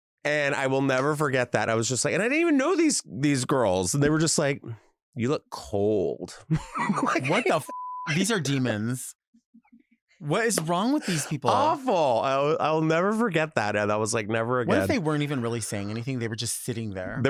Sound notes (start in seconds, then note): 6.4 laughs; 7.6 beep